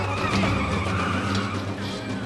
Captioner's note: onlookers murmuring